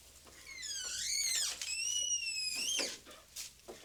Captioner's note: door creaking